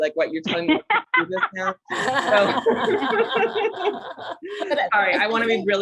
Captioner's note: panelists laughing